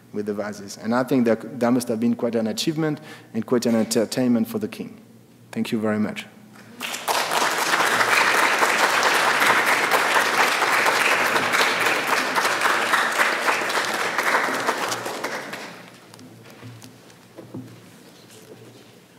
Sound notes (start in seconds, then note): 6.9 audience claps